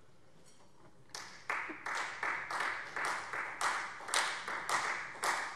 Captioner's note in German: Beifall Freie Demokraten